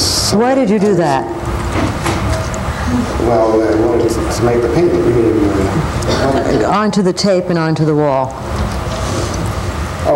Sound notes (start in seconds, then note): 6.2 mutters